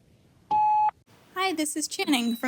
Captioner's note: tone beeping